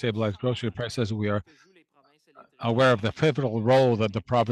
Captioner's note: speaking French